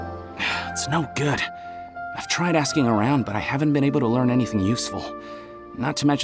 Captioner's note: sigh